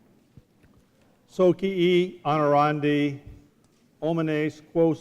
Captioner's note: speaking latin